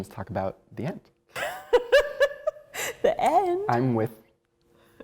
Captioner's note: laughs